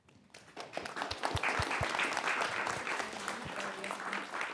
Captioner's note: audience applauding